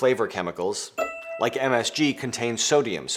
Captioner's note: bell ringing